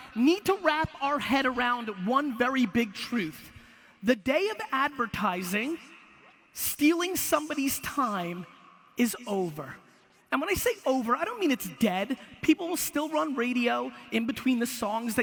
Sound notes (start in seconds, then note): none